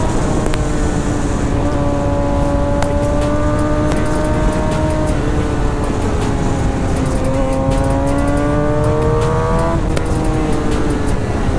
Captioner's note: engine revving